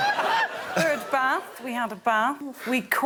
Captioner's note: laughing